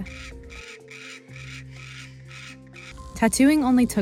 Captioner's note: bird chirping